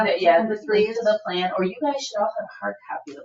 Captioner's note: people chattering